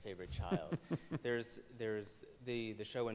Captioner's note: laughs